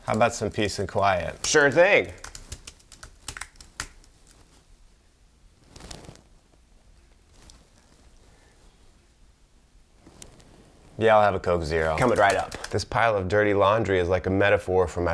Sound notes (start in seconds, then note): 1.3 keyboard ticking; 4.0 silence